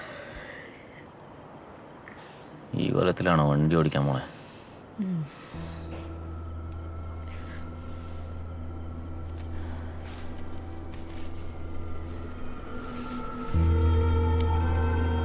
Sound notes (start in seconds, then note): none